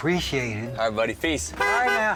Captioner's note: car horn